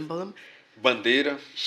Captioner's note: speaking portuguese